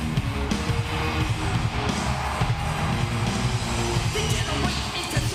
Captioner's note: upbeat rock music; audience cheering